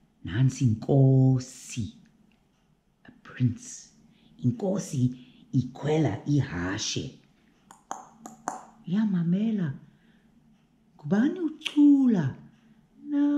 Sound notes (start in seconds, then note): 7.7 clip clop, clip clop